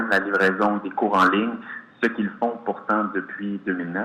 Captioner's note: speaks French